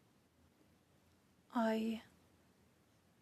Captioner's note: speaking French